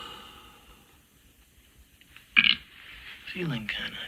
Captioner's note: A belch